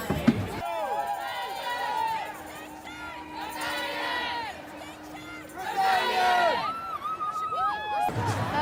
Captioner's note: chanting